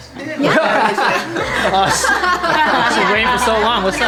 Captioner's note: laughs